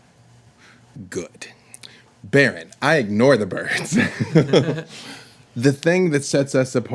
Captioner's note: laughs